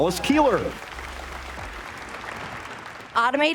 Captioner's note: applause